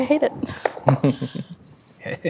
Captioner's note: chuckling; dice rolling